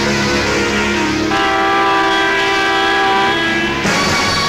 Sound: train horn blares

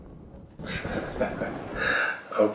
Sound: Judge Kelly chuckles

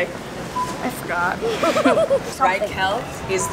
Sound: laughing

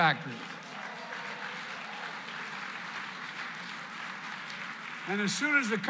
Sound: applause

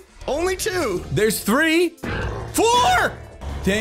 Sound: Many Ravagers rumbling

